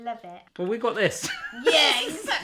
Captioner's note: laughing